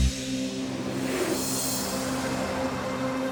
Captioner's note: graphics whoosh; suspenseful music